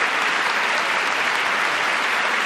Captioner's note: applause